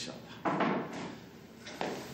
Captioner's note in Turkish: Kapı açılır